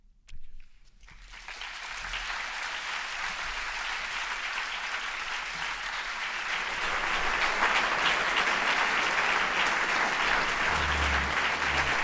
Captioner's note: applause